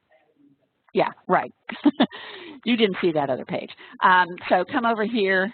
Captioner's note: laughs